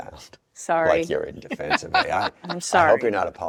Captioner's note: laughs